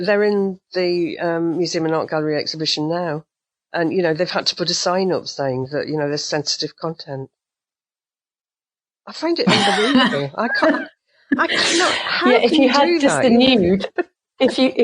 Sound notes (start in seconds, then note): 9.5 laughter from both